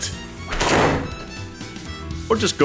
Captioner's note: door slam